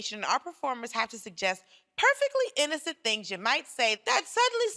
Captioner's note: none